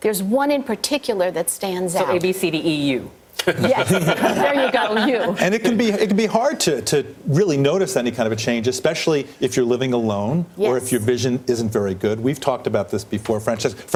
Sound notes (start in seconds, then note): 3.4 laughter